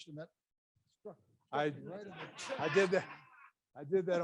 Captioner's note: audience laughs